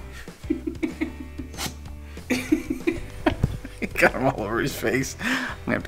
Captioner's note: laughs